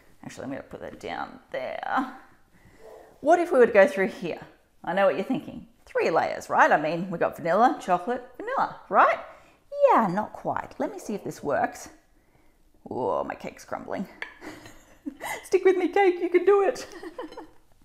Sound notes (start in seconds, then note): 14.4 giggles